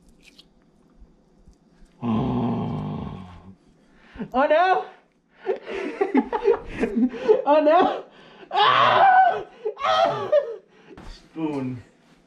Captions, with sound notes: (creepy gutteral pleasure noises) Oh no! (laughing) - Oh no! Aaauuuggh!! Aaaughha! Spoon.